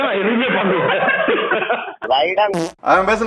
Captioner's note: laughs